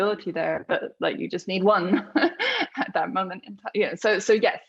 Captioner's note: laughs